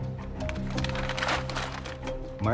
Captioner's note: crinkling